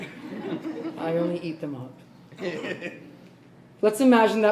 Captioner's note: laughs